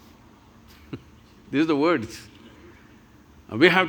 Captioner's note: laughs